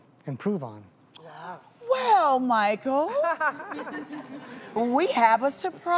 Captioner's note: audience giggles